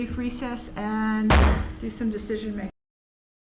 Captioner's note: gavel banging loudly